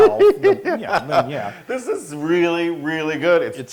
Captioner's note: laugh